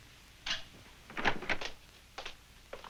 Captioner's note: door opening